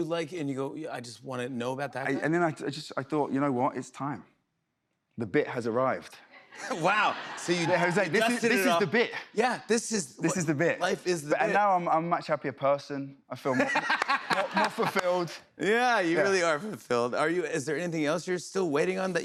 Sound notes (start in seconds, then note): 13.5 laughs